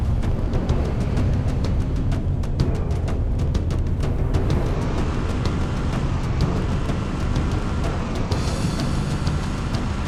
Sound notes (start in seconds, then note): none